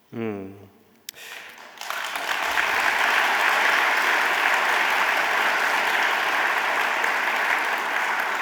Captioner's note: audience applauding